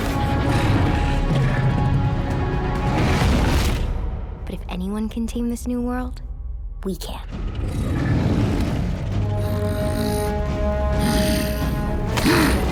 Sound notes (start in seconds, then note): 1.8 dinosaurs roaring